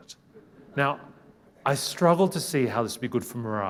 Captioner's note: people laughing